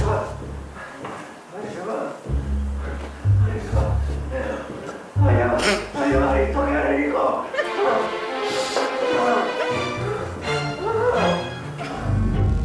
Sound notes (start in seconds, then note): 2.8 continues moans of pleasure; 7.5 Mariana laughs; 9.4 screams of pleasure